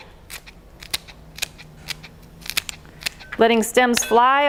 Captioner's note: scissors snapping